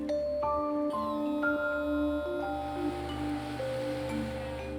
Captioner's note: device whirring